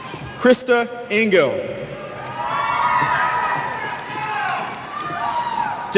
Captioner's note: cheers